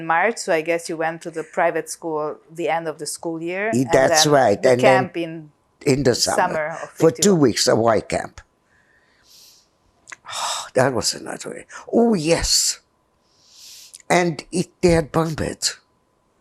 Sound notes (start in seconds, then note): 11.5 sighing